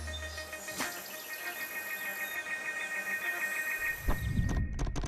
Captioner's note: birds chirping